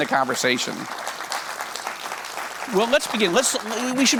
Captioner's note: audience applauds